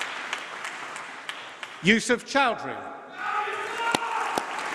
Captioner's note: applause